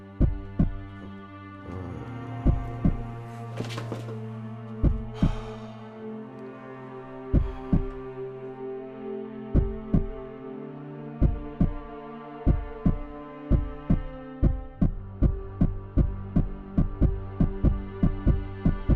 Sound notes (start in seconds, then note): 0.3 heart beats; 0.3 tense music; 14.4 escalating heart beats